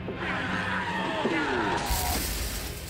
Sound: tires squealing; thudding

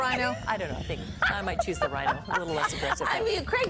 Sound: laughter

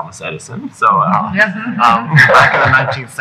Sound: laughing

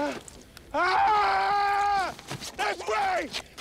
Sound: screams

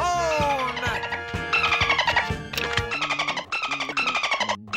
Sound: dolphin noise

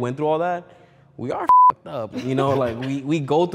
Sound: beep

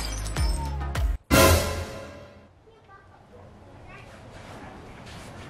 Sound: surprise sound effect

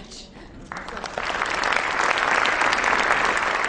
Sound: audience applause

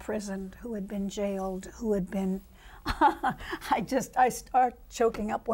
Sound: laughs

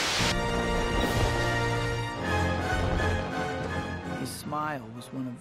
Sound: fireworks popping

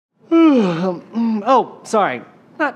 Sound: yawn

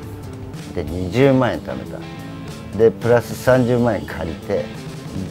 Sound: speaking in Japanese

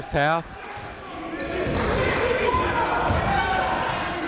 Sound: chatter

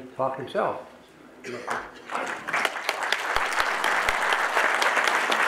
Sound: audience applauding

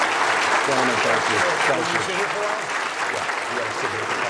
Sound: applause

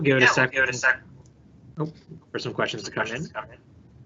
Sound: mic feeding back

